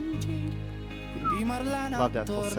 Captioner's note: whistles in amazement again